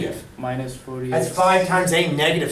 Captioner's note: voiceover